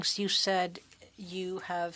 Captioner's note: speaking French